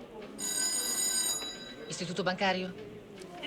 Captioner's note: phone rings